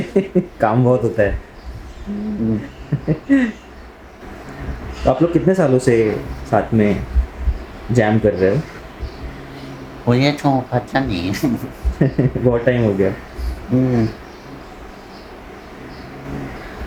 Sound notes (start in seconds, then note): 11.1 laughs